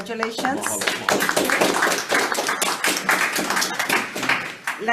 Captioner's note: all applauding